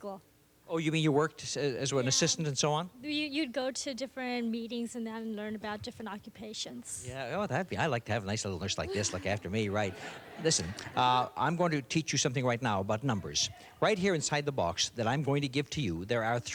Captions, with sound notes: -Oh, you mean you worked as an assistant and so on? -You'd go to different meetings and then learn about different occupations. -Yeah, I like to have a nice little nurse like this look after me, right? (laughter) Listen, I'm going to teach you something right now about numbers. Right here inside the box that I'm going to give to you there are three items